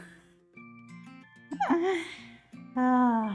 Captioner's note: laughs